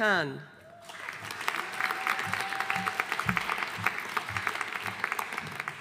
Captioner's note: audience applauding